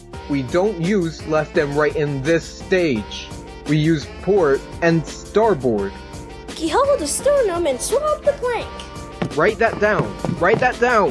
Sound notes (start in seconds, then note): none